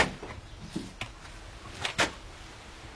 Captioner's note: slow steps